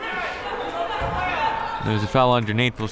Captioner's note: crowd members shouting